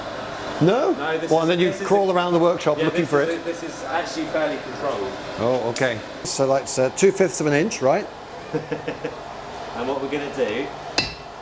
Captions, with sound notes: -No? Well then you crawl around the workshop looking for it? -No, this is actually fairly controlled. -Oh, okay. So that's two fifths of an inch, right? -(laughts) And what we're gonna do...